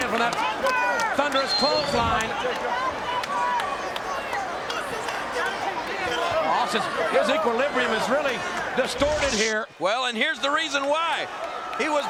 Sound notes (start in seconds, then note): 3.0 crowd chattering